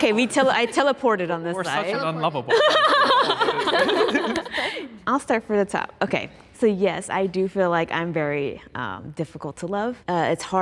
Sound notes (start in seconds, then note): 2.4 group laughing